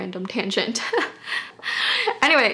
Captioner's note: laughing